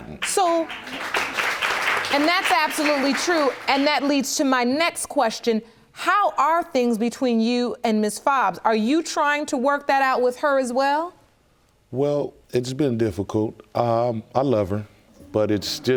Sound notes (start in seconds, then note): 0.1 audience applauds